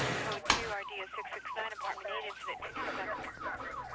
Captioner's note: sirens